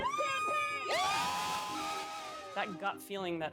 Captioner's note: crowd cheering